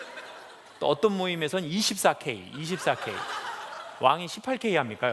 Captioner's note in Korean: 웃음